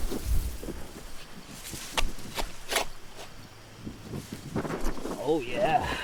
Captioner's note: grass rustling; shovel scrapes